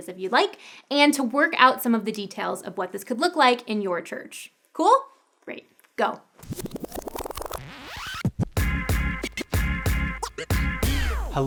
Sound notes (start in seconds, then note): 6.4 digital effects; 7.2 upbeat music